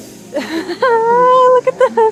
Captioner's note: laughs